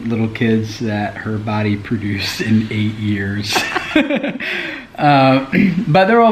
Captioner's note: laughs